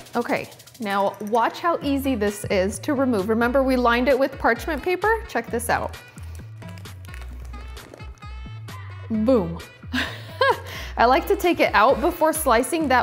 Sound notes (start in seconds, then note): 9.4 laughs